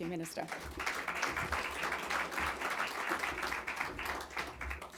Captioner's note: audience clapping